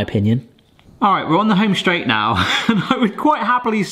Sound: laughs

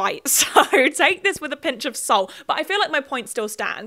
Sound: laughs

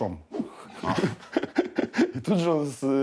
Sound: laughs

